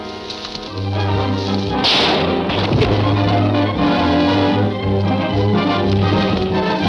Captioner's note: dramatic music; gun fires